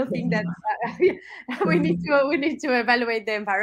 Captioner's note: laugh